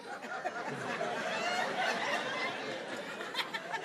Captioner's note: audience laughing